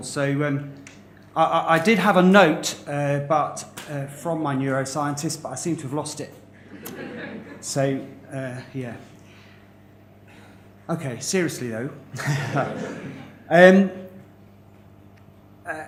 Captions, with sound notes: So I'm, I, I did have a note but... from my neuroscientist but I seem to have lost it. (LAUGHTER) So, yeah. OK, seriously though. (LAUGHTER)